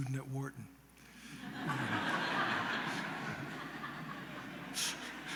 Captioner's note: laughter